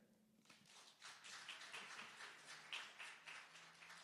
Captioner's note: applause